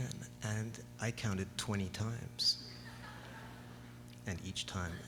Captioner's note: laughter